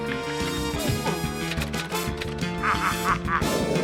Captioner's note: typewriter clacks; cackles